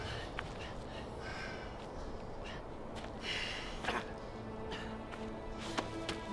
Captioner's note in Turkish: Nefes sesleri